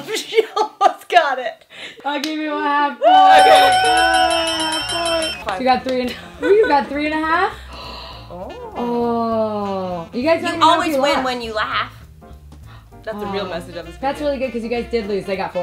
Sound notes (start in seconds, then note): 0.2 laughs; 3.0 all cheer; 3.3 bell rings